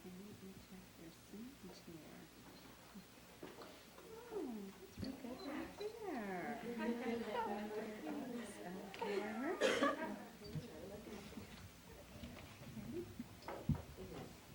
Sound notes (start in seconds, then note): 9.0 laughs